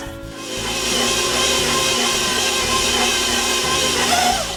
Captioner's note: mixer motor humming